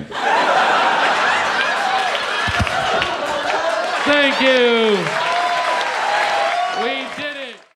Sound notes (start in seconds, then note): 0.0 audience laughing; 6.8 audience cheering